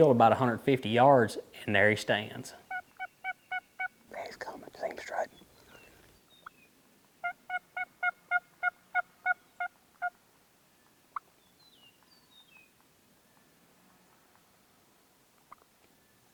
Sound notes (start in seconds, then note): 7.2 turkey call